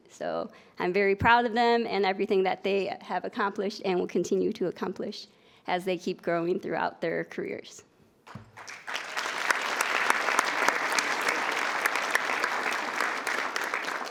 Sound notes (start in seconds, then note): 8.4 attendees applauding